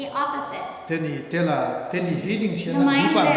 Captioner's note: speaking tibetan